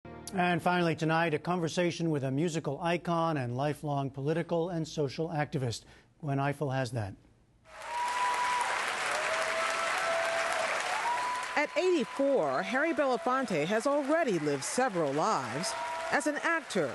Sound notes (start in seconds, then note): 7.7 cheering and applause